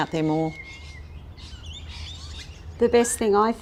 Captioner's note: birds chirping